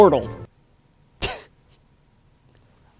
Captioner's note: chortle